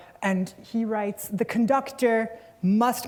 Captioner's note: none